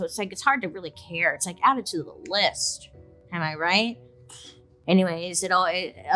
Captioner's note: exhales